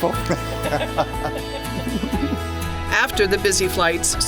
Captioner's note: laughs